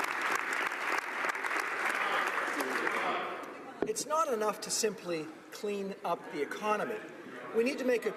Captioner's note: applause